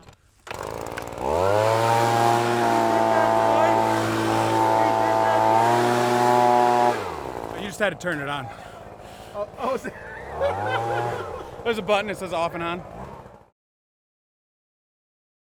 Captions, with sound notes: (leaf blower engine turns on) - You just had to turn it on. - Oh (laughing) - There's a button that says "off" and "on".